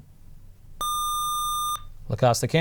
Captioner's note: buzzer